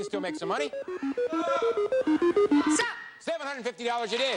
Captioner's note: audience shouting